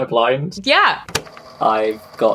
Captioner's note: tape recorder clicks on